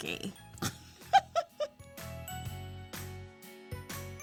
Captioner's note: laughs